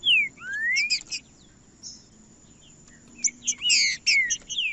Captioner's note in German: trinca ferro cantando